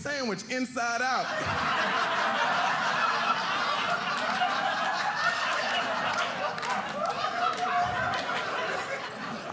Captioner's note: audience laughing